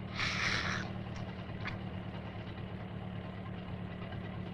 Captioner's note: Harris gasps deeply